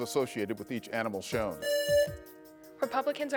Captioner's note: buzzer rings